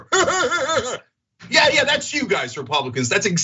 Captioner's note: laugh